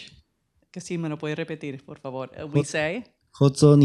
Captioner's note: speaking spanish